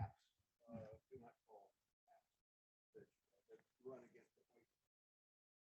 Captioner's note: faintly speaking